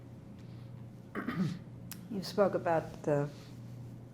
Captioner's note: clears throat